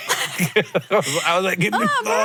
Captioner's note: both laugh